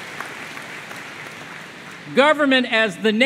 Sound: applause

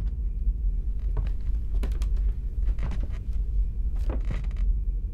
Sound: footsteps

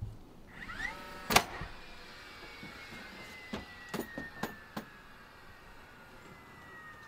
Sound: drill buzzing loudly; wood rustling loudly

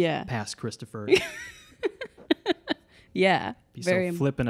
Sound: laughs

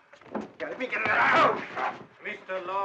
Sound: grunting & snarling

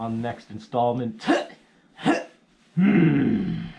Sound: grunting

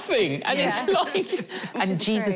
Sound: laughing

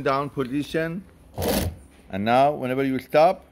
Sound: machine whirs

